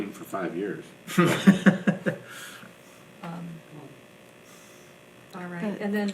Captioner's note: laughing